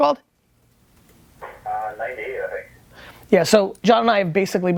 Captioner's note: voiceover